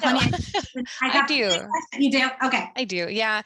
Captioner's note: laughs